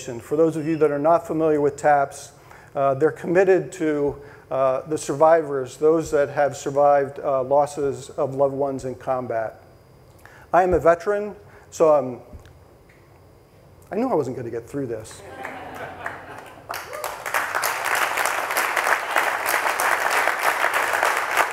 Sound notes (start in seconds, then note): 15.2 audience laughing; 15.2 audience applauding